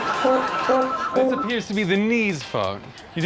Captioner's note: horn playing, phone ringing